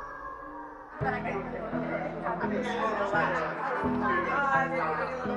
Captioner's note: crowd murmurs